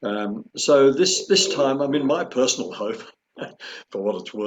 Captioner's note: chuckles